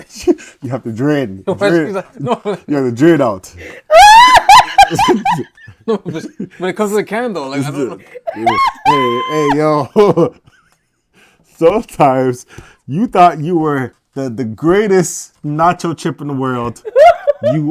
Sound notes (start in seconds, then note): 7.8 laughs